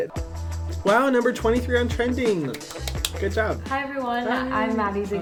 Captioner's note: hands clap